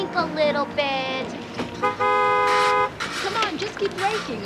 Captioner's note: car honks